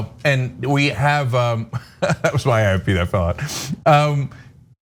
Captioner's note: laugh